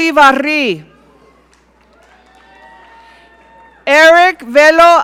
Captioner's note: audience cheering